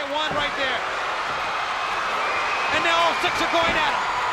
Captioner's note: spectators cheering